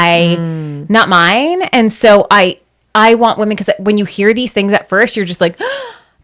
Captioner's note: gasp